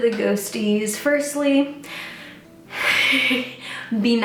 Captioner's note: laughs nervously